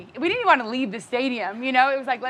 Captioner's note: none